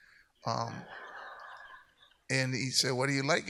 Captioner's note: audience laughs